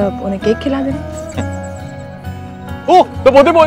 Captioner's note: Giggling